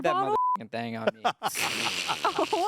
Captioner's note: beep; everyone laughs